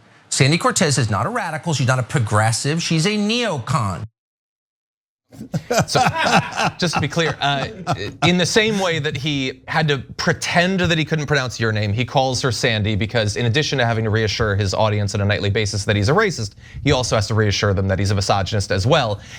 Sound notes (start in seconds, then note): 5.3 laugh